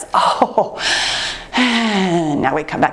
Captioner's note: chuckles